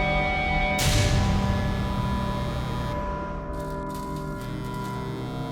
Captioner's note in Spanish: zumbido del teléfono celular